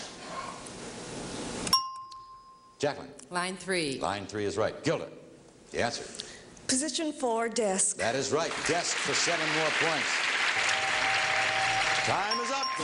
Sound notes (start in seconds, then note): 1.7 ringing bell; 9.8 bell ringing